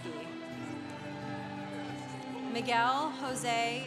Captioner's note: congregation applauding